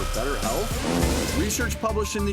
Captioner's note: loud fart